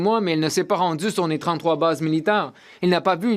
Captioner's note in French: voix de l'interprète